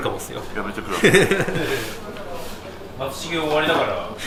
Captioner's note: laughs